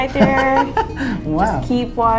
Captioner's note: laughs